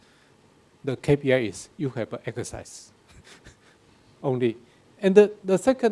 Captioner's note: laughs